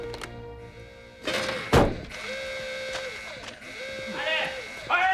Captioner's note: alarm blaring; men shouting orders